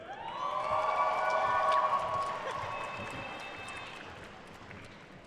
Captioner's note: attendees cheering and applauding